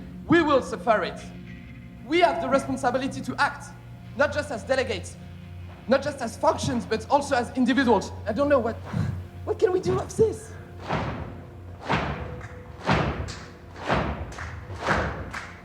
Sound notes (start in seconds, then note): 11.0 stomping; 11.8 clapping